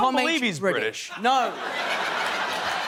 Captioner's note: laughter